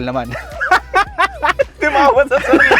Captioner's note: both laugh